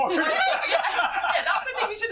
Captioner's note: laughter